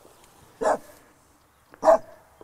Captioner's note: dog barking